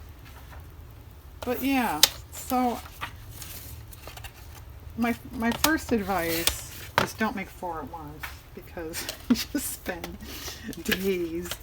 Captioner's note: laughs